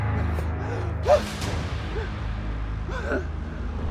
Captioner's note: gasping